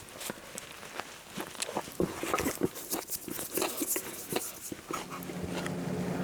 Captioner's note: unpleasantly loud munching sound